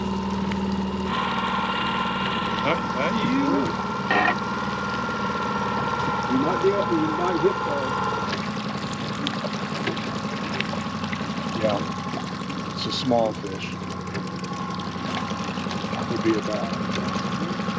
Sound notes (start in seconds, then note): 10.4 boat engine idling